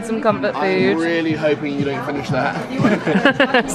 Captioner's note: laughs